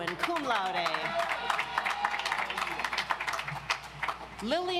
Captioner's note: audience applauds